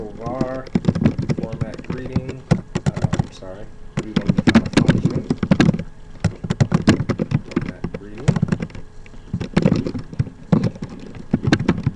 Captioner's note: typing sounds